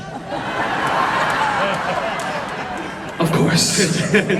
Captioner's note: crowd laughs; everyone laughs